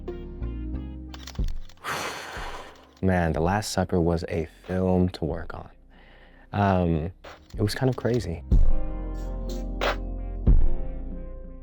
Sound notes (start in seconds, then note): 1.8 sighing; 7.2 upbeat music